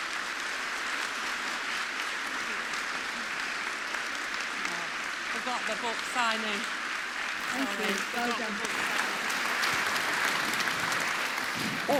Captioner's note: applause